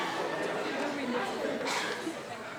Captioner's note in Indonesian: Batuk